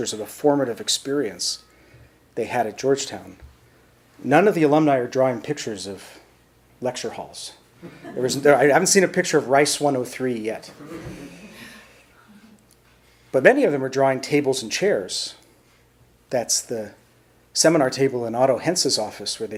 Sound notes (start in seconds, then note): 7.8 audience chuckles; 10.7 audience chuckles